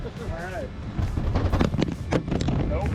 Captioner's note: wind rustling; laughing